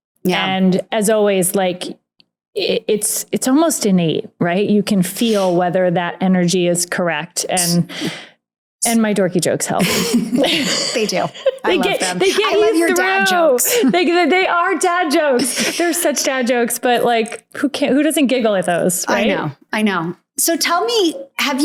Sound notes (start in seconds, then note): 9.8 laughs